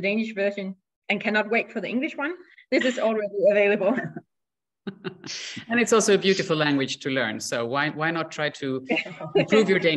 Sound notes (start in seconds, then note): 4.8 laughter